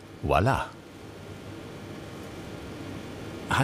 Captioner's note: whirring